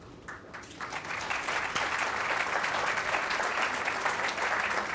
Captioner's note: applause